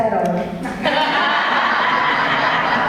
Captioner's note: audience laughs